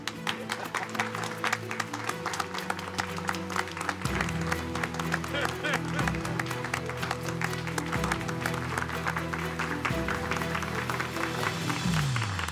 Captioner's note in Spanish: Aplausos